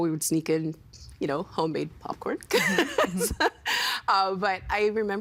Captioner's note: laughing